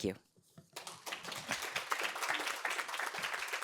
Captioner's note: applause